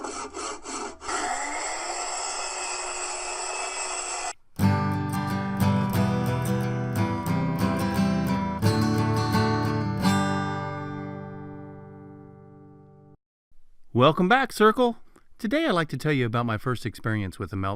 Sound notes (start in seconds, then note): 0.0 saw sound; 1.8 power tool sound